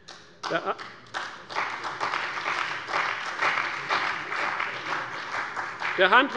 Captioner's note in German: Beifall bei der CDU und dem BÜNDNIS 90/DIE GRÜNEN